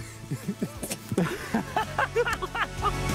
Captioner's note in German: Lachen